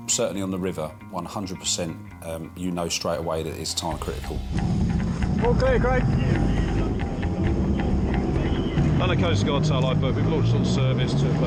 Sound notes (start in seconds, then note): 6.3 boat droning; 6.3 intense music